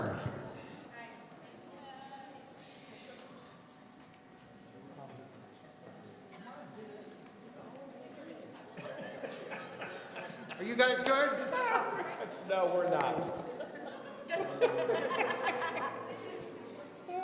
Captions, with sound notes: (people conversing quietly) (laughing) Are you guys good? - No, we're not. (laughing)